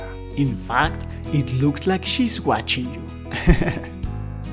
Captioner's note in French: rires